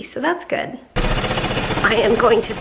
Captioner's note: vest machine running